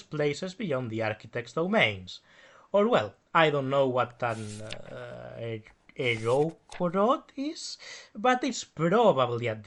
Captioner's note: flips pages